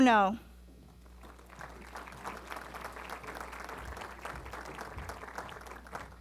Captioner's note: applause